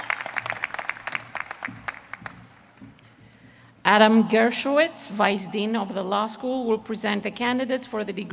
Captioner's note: applause